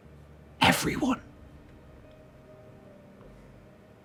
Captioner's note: whispers